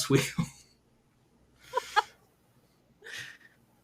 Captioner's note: laughter